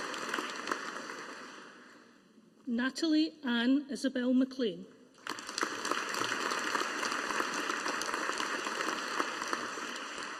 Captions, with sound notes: Natalie Anne Isobel Maclean. (AUDIENCE APPLAUDING)